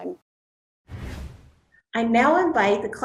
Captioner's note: air whooshing